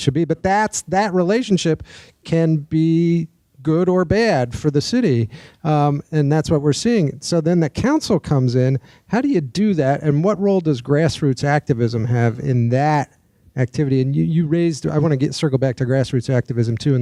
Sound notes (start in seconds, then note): none